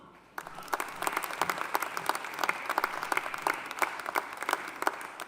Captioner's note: audience applauding